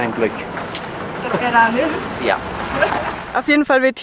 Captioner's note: laughs